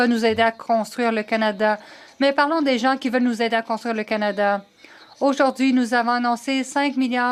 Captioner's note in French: voix de l'interprète